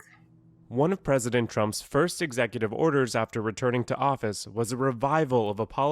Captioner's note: voice-over